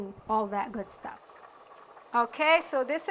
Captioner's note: soup bubbling